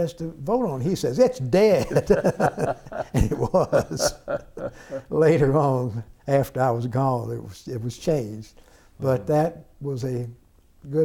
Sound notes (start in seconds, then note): 4.7 laughter